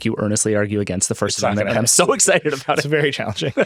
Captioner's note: laughs